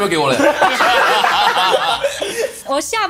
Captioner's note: laughs